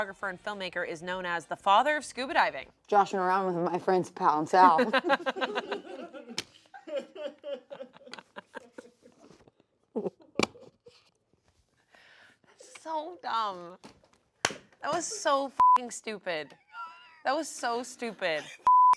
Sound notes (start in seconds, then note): 4.7 everyone laughs; 15.6 beep